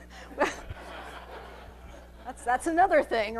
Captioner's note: laughing